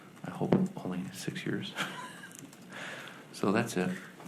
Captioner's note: laughs